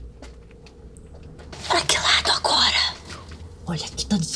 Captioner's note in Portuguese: sussurrando